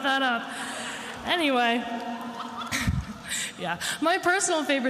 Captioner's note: attendees laughing